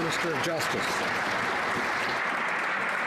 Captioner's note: some Applause